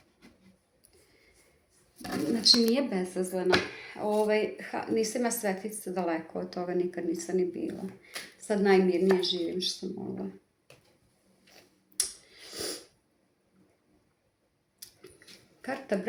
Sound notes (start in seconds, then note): 12.4 snort